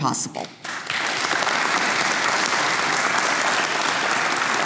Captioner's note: audience applauds